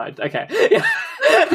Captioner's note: laughing